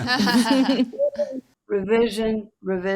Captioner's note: group laughing